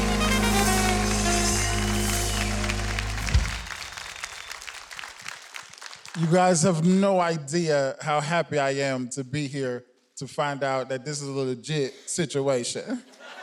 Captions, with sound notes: (audience clapping) - You guys have no idea how happy I am to be here to find a out that this is a legit situation.